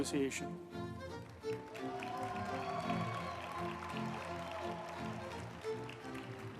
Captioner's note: uplifting music; group applauding